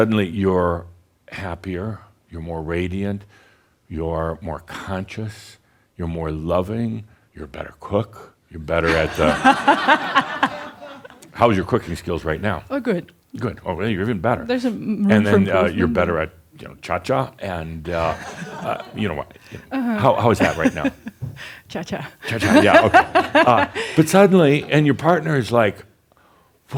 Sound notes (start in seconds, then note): 8.8 laughter; 17.9 some chuckles; 23.4 she chuckles